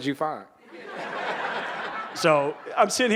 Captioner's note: audience laughing